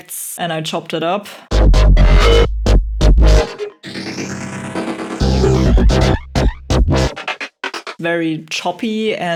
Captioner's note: amped up wibbling and worbling